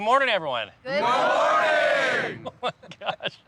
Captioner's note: laughs